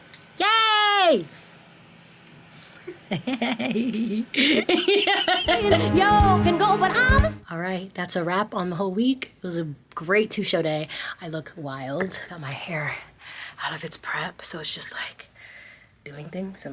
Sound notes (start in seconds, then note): 2.9 laughing